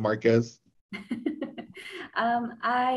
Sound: laughs

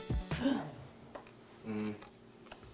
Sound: gasping

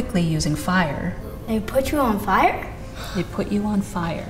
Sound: gasping

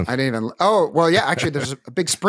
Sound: chuckles

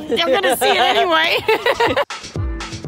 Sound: laughter; upbeat music

